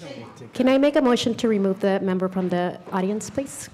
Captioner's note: gavel